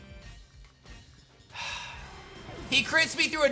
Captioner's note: sighs